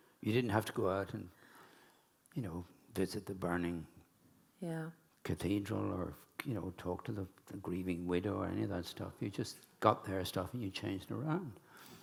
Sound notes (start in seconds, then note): none